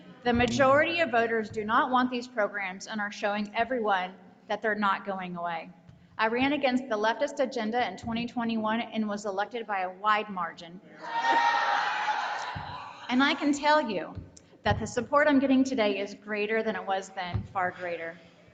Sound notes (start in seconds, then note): 11.0 audience jeering